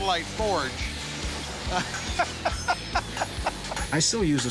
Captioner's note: both laughing